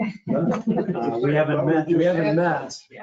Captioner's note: people chuckling